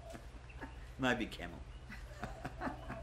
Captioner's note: laughter